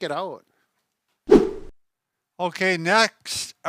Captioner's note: whip sound